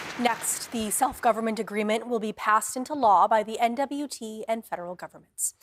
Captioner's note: applause